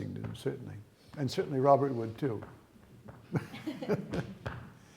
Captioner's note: laughter